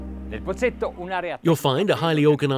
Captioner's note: speaking in foreign language